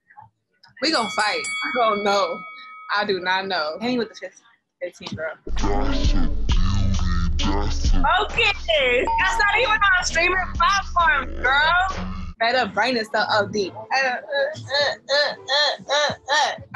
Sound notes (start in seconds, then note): 0.8 bell ringing; 5.5 slowed down audio